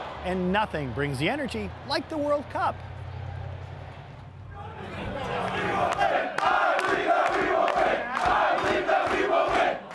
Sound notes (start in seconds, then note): 0.0 crowd cheering; 5.3 indistinct chanting